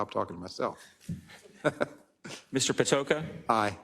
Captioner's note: laugh